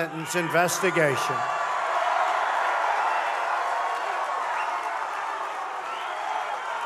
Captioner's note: crowd cheering